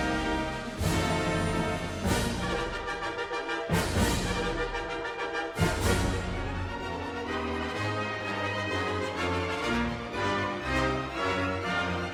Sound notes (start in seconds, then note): none